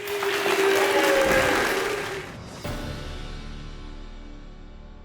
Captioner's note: audience applauding